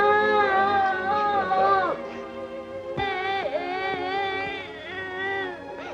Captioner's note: solemn music; sobbing